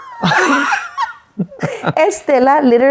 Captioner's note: both laughing